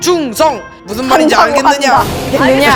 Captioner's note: in a historical drama tone